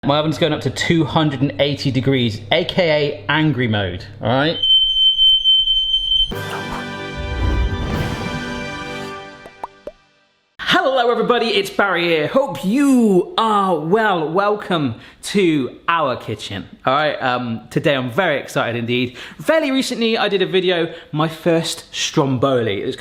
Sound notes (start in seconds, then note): 4.5 smoke alarm beeping; 6.3 bright music